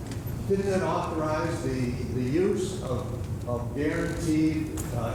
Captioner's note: voiceover